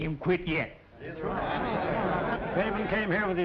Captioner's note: murmurs of agreement